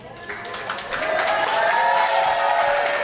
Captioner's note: parents applauding